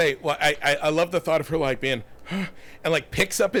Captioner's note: gasping